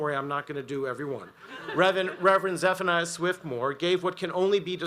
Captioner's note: audience laughs